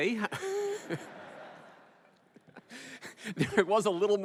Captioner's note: laughter